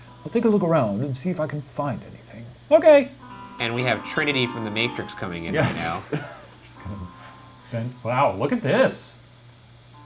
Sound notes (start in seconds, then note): 5.6 laughs